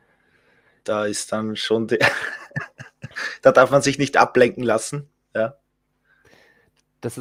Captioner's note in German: lacht